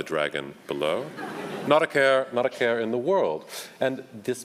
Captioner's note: audience laughs